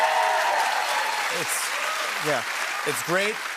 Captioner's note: cheers and applause